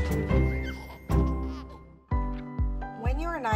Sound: baby giggling

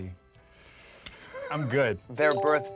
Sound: Michael laughs

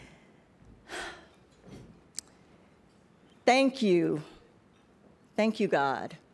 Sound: sighs

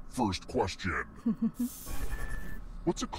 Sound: giggles

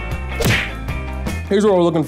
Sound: smacks

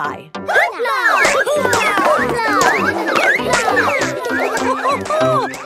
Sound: all laugh

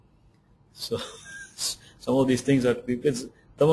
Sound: laughs

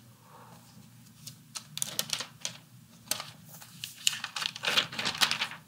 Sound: plastic wrapping crinkles

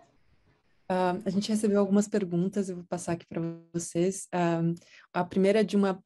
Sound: speaking in Portuguese

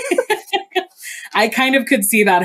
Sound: both laugh

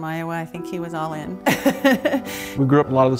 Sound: laughter

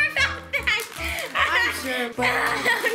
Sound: laughs

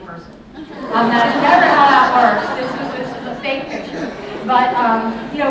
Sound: laughter

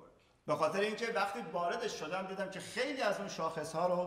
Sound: speaking in farsi

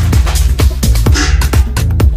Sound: bin noise

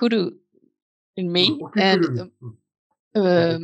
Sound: speaking japanese

